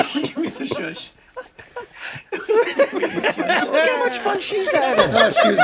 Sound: all laughing

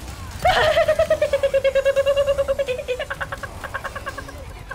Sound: panicky noises

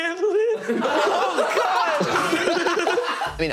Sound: laughing

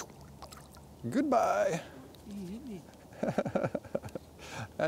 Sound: laughs

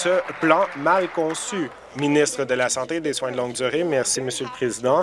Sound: applause

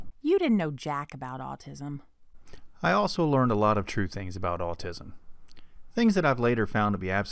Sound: man's voice

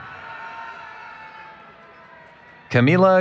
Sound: cheering

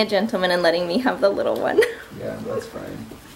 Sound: chuckles

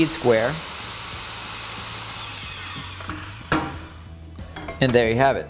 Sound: saw blade cutting

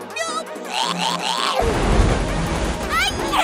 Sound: vomit noises

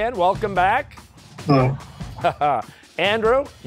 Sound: chuckles

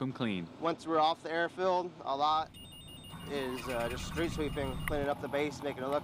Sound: beeping engine start

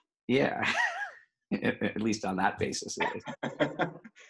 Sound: both laugh

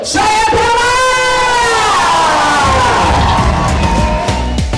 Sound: crowd cheers; pop music plays

